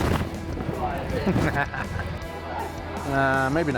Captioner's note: laughs